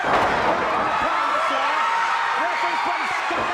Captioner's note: audience cheers